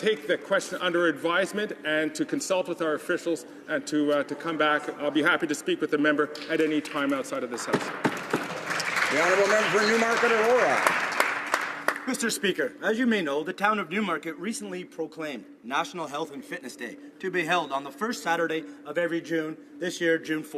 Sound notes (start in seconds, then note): 11.5 some Applause